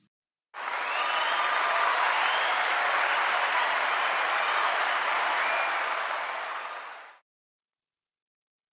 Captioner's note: cheering and applause